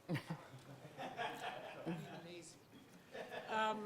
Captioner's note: audience laughing